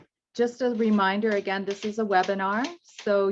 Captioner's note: keyboard clanking